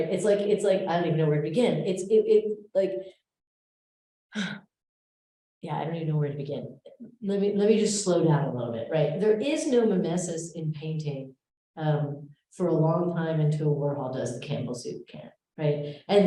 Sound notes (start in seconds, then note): 3.0 sighs